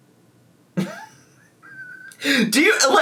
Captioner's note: laughs